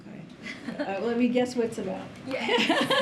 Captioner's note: laughter